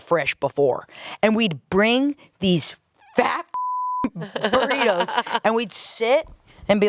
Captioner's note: beep